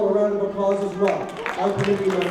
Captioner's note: applause